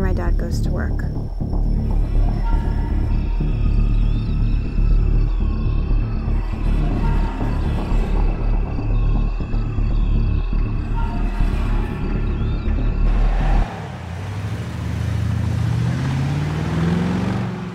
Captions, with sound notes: After my dad goes to work. [crickets chirping] [car treads]